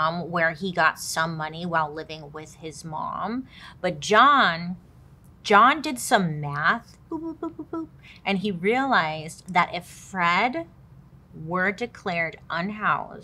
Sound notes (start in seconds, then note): 5.9 imitating calculator beeping